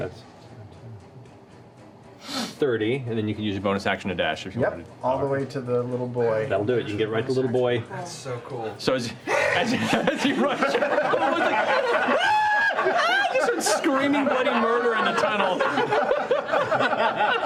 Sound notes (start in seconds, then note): 12.1 screaming